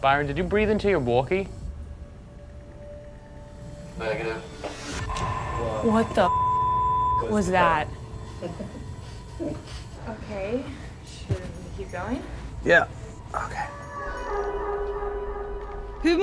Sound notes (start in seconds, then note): 8.2 chuckles; 14.2 suspenseful music playing